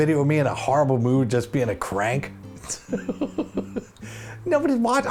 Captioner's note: laughs